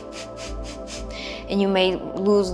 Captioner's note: inhaling; exhaling